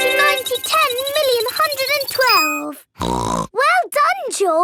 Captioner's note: beeping; snorts